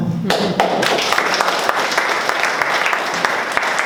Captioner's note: applause